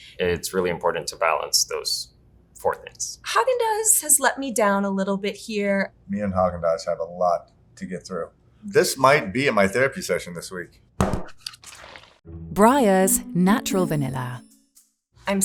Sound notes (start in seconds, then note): 11.0 tub thudding